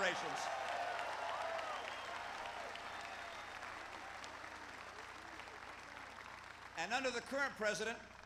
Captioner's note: applause